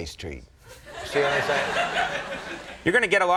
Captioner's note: audience laughing